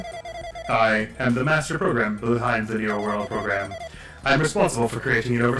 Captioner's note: as Alter Ego